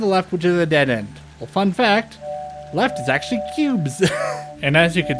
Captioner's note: chuckle